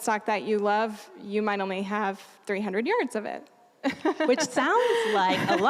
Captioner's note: laughing